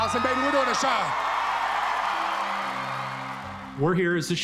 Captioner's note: cheering